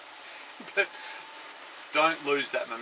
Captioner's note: both chuckle